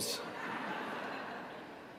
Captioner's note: laughter